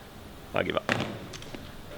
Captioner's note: phone clatters